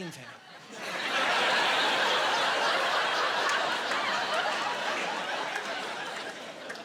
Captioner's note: laughing